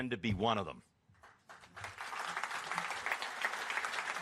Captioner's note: applause